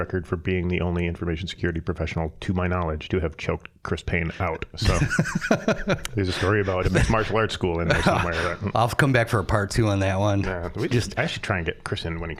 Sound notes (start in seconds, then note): 4.8 laughing